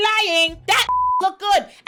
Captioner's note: beep